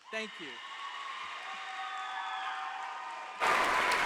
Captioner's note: audience cheers